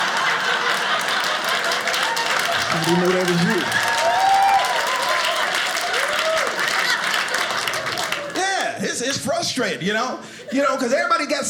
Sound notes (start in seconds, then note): 0.0 audience laughing; 4.8 audience applauding